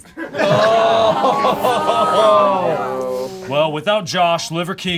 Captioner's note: group groans